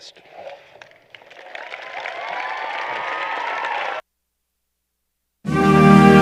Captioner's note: applause